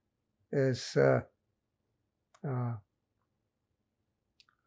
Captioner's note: pauses 6 seconds